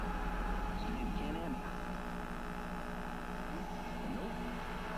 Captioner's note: TV channels changing